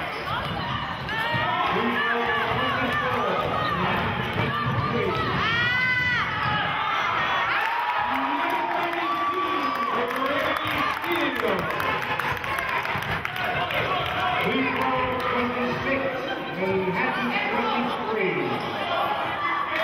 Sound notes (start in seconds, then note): 4.8 yelling; 6.5 cheering